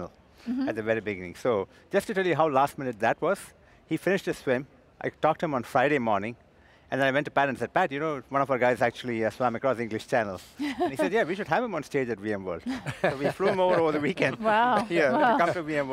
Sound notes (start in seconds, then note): 10.6 laughs; 12.6 laugh